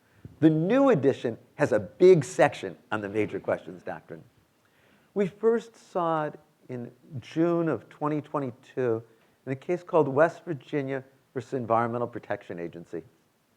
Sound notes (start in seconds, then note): none